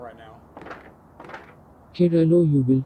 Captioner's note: wings flapping